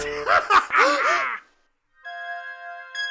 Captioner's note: צוחק; מוזיקה קודרת